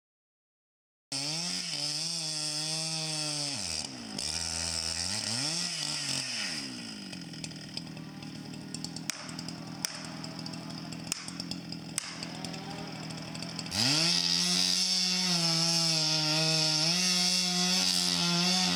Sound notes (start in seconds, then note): 0.3 chainsaw buzzing; 8.8 ax smacking; 13.8 chainsaw buzzing